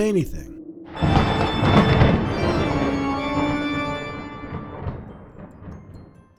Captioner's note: thunderclap